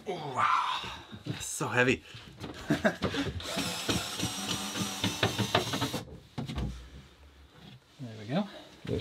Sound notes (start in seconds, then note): 3.4 drill buzzing